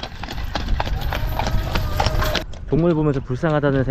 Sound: running horses

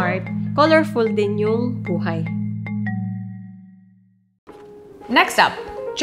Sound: speaking in foreign language

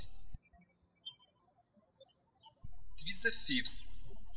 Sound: birds chirping

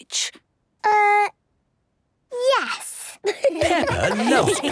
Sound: laughter

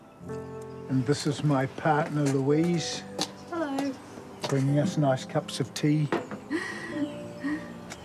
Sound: chuckles

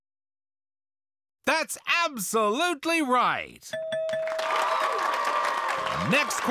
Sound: bell dings; audience cheers

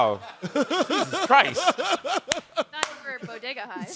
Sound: chuckling

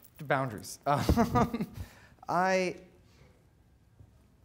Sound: laughing

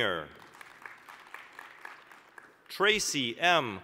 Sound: applause

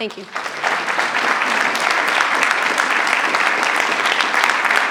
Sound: attendees applauding

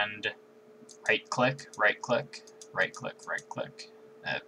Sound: double left click; right click

